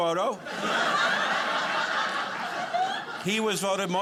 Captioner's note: audience laughing